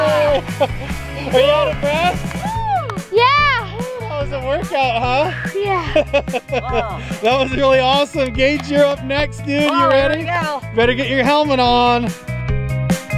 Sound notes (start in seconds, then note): 6.5 laughs; 12.9 lively music